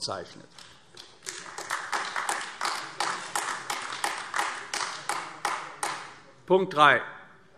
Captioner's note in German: Beifall AfD